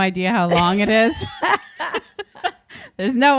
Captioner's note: both laughing